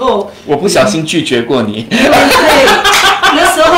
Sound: laughter

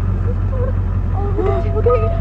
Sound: Alexie sobs

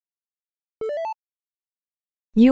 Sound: notifications sound

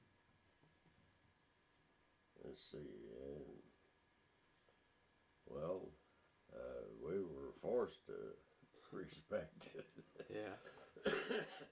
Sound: laughs and coughs

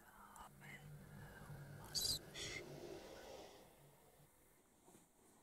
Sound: voice whispers faintly

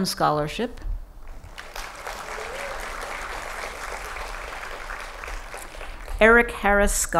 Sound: applause

